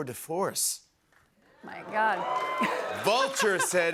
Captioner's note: cheers and applause